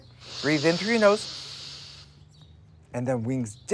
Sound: inhaling

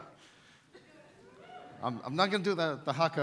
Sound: audience whoops

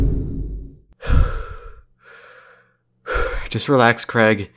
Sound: deep breathing

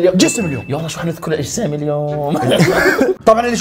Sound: laugh

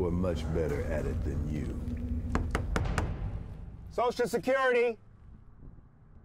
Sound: knocking

